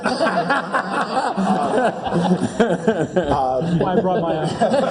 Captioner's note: laugh